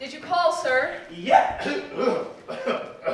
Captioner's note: coughs